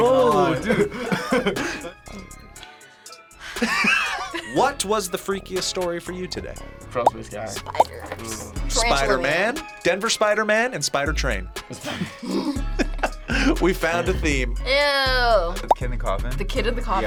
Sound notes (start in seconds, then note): 0.4 laughs; 3.6 laughs; 11.7 both laugh